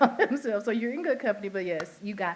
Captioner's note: laughter